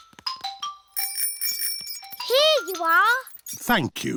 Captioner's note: bell rings